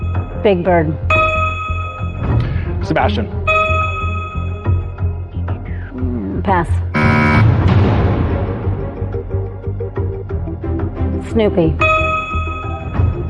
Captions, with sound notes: Big Bird. Sebastian. -Pass. -(BUZZER SOUNDS)